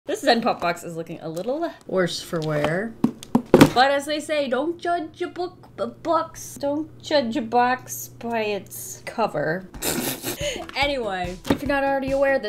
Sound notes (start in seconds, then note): 3.0 taps box; 9.8 laughs